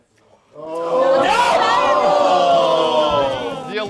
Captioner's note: groans